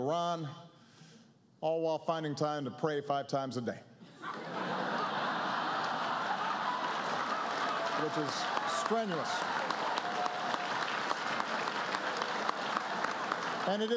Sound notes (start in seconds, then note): 6.9 laughter; 11.8 applause